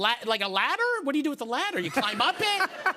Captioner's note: laughter